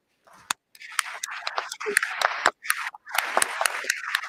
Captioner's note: applause